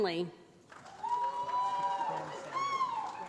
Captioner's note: applause